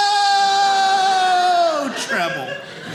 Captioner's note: audience laughing